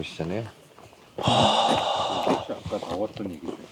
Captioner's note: sigh